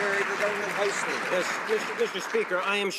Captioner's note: some Applause